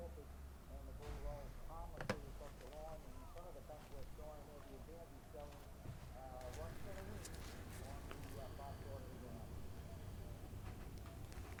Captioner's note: tv sounds